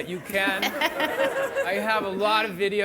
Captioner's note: audience laughing